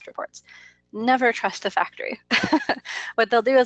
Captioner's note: laughs